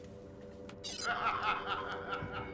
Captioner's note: beeps, laughing